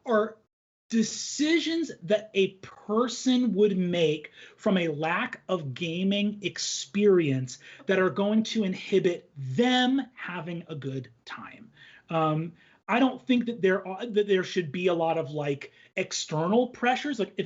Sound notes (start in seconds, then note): none